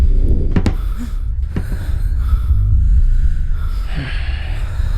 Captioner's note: heavy breathing continues